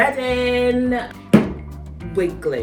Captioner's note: slamming noise